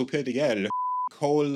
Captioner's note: beep